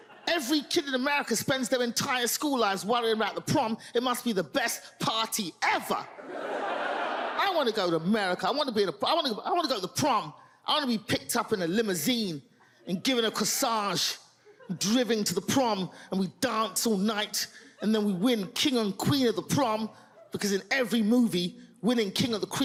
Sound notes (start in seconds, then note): 6.1 audience laughs